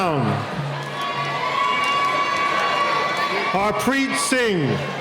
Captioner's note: cheering